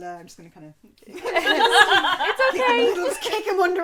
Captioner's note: laughter